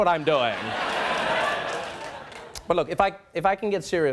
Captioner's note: audience laughing